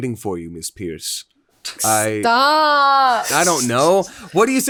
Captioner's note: laughing